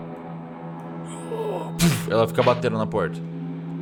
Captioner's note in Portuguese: Grunhidos